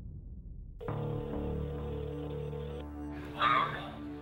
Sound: phone rings

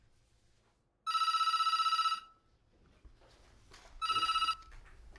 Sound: phone ringing

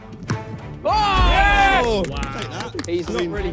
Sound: players cheer

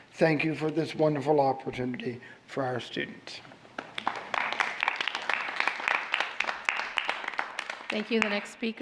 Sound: applause

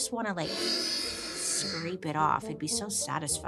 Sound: nail scratching

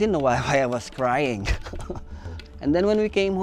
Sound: chuckles

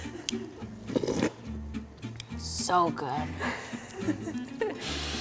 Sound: slurping; laughter

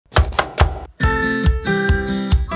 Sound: knife chopping; upbeat music

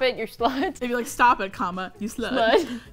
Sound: laughs; laughs

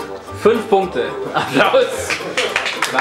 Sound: applause!

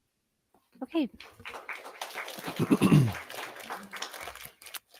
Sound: audience clapping

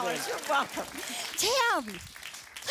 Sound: applause

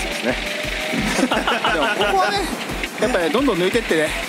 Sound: laughs

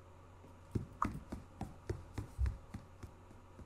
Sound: running footsteps

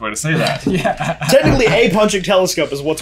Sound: both laughing

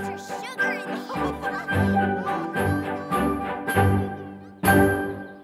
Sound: giggles

